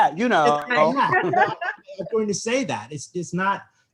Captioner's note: all laugh